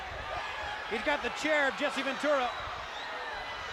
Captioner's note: crowd cheering